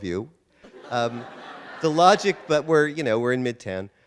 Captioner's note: audience laughter